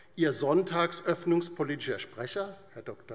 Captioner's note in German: none